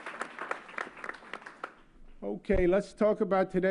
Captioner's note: applause